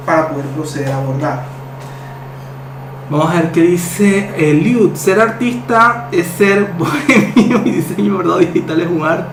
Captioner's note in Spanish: risas